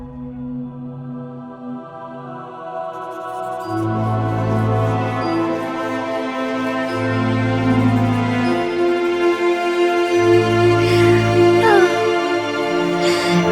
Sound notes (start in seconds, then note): 0.1 ethereal orchestral music; 3.1 scribbling